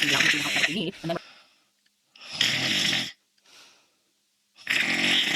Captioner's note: snoring